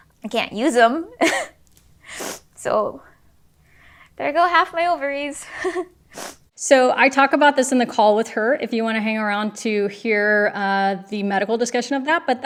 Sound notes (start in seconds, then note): 1.2 chuckles; 2.2 sniffles; 5.5 chuckles